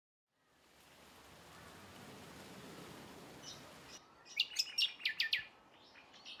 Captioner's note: ambient and birds calls